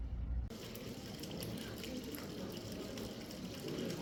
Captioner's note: water rippling, voices